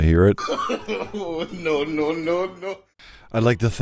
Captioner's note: goofy Laughter " no no no no no"